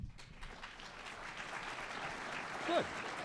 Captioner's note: audience applause